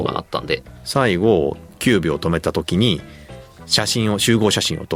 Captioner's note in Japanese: none